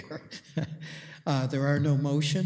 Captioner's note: laughs